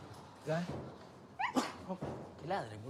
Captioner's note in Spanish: estornudo